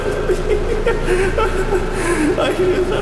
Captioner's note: laughter